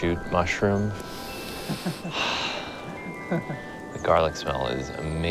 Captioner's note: sniffs deeply